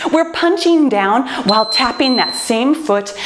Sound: timer beeps

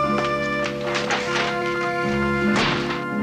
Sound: door slams

